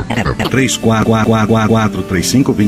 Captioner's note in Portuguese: som de pato